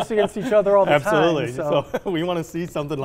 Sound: chuckling

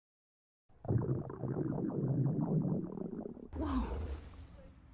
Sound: Max's stomach growling

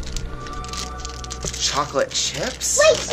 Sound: crinkles

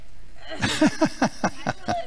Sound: laughing

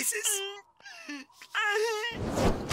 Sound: sobbing

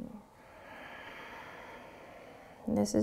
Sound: exhaling

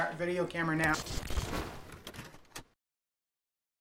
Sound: static

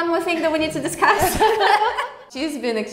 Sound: group laughs

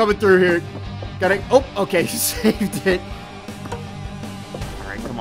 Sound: chuckling

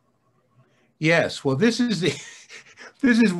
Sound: laughs

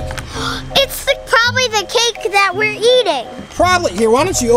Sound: gasp

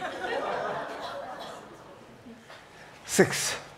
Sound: audience laughing

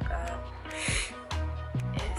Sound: sniffs

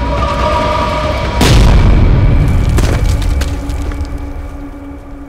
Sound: explosion blasts

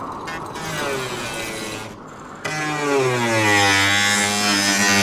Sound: chainsaw whirring

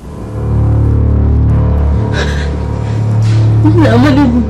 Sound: tense music playing; sobbing

